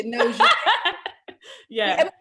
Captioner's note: laughs